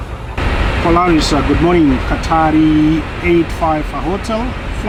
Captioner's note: speaking on the radio